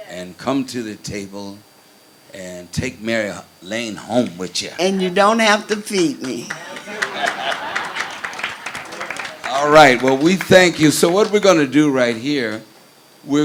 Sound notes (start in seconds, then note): 6.3 crowd laughs